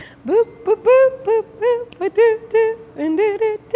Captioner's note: humming